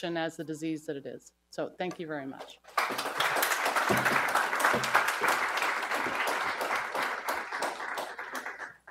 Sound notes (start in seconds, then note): 2.7 audience applauds